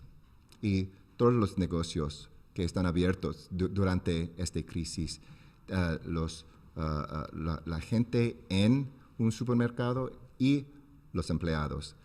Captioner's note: speaking spanish